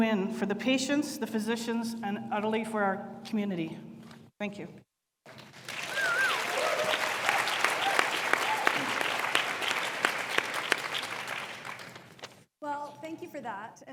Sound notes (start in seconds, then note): 5.4 audience applauds